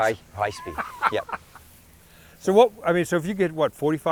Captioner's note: laughs